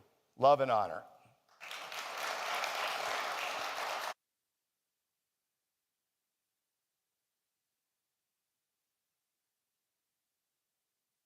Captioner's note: clapping